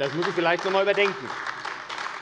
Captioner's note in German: Beifall AfD